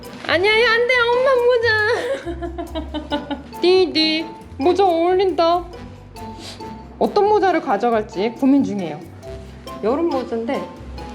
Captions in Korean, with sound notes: 아니, 아니, 안돼! 엄마 모자~ (웃음) 디디. 모자 어울린다. 어떤 모자를 가져갈지 고민 중이에요~ 여름 모자인데...